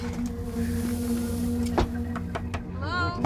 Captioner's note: knocking on door